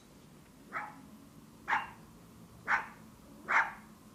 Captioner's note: dog barking